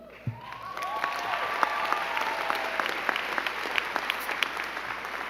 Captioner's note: crowd cheering and clapping